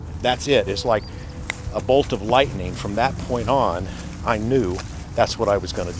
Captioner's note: snaps